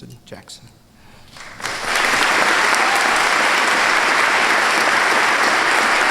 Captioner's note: applause